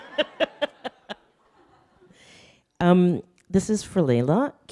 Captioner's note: audience laughing